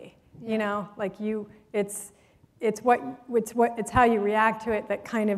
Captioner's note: none